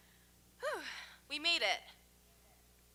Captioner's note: sighs